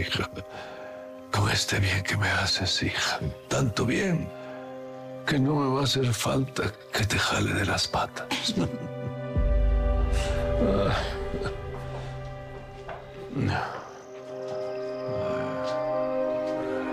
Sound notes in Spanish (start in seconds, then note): 8.2 Risas; 10.1 Ramón jadea